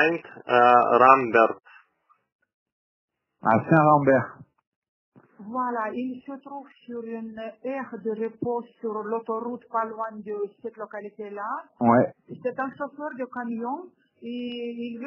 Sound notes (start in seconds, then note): 3.1 speaks in french